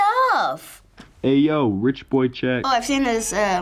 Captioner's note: voice-over